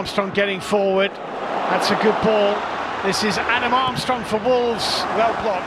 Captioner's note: audience oohs